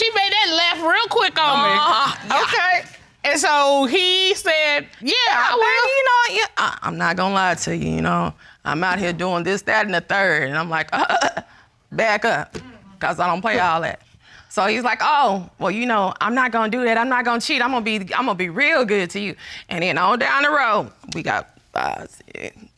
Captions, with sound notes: She made that left real quick on me. Okay. And so he said, "Yeah, I will." "I'm not gonna lie to you, you know. I'm out here doing this, that and the third." And I'm like... [splutters] "Back up. 'Cause I don't play all that." So he's like, "Oh, you know, I'm not gonna do that, I'm not gonna cheat, I'mma be real good to you." And then all down the row, we got five, six...